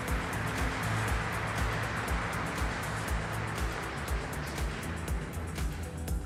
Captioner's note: audience applauding; upbeat music